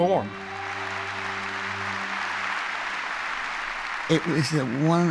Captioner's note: cheering and applause